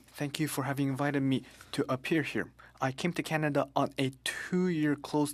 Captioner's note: speaking French